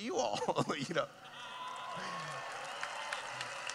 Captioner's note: laughing; cheering